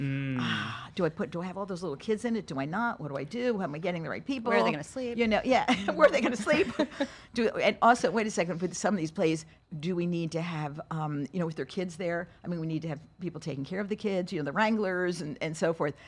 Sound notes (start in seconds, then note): 0.0 sighs; 5.4 laughs